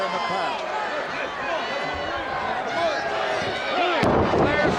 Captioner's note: crowd cheering